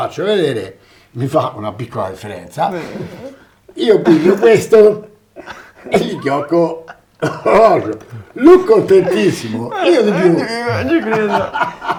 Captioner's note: laughs